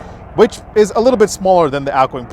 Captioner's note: airplane engine roaring